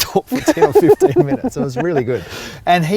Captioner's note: laughing